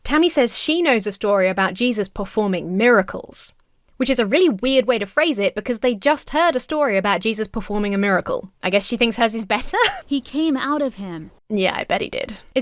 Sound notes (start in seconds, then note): 9.7 Emma chuckles